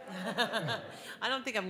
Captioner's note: laughing